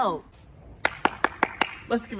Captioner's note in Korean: 박수